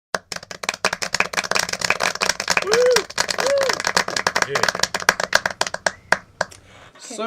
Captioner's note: clapping